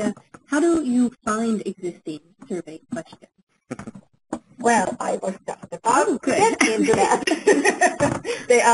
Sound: laughs

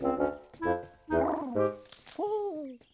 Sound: cooing; snapping of twig

